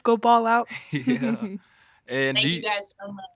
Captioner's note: both chuckling